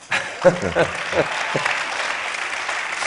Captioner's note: applause